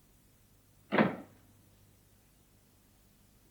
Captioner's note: door closes